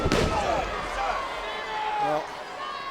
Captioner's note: body thudding